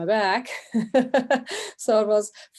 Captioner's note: laughing